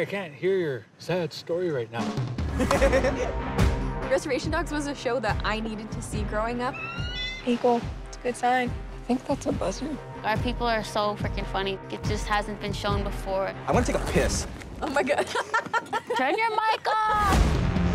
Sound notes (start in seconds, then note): 2.6 laughs; 6.7 bird cawing; 14.9 laughs